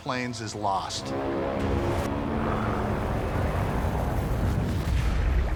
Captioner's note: intense music; airplane engines whirring